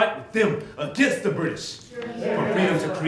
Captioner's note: audience cheering